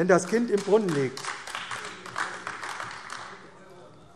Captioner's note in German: Beifall AfD